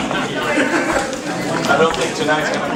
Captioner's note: light laughter